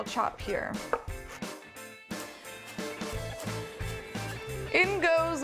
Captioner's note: sound of knife chopping